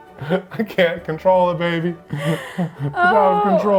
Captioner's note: laughing; laughing